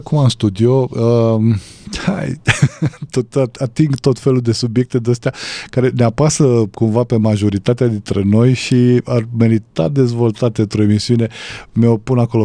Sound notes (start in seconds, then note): 2.4 laughter